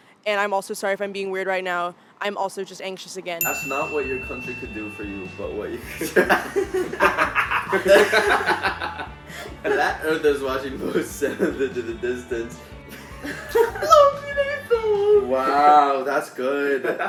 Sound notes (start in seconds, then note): 5.7 all laughing